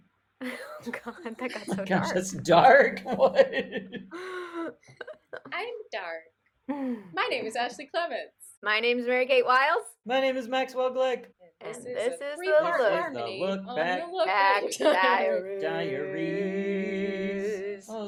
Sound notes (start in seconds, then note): 4.5 in a high-pitched voice